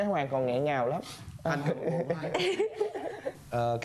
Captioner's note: laughing